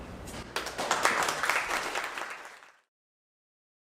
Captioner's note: applause